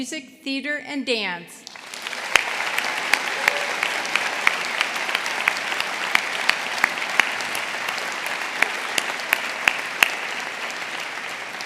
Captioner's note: applause